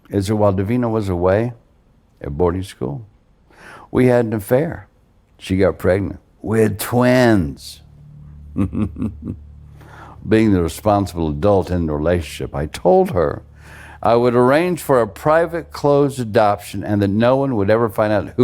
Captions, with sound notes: is that while Davina was away at boarding school, we had an affair. She got pregnant with twins. (pensive music) (John laughing) Being the responsible adult in the relationship, I told her I would arrange for a private closed adoption and that no one would ever find out